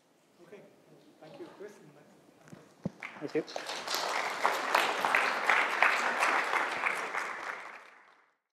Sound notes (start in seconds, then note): 3.0 applause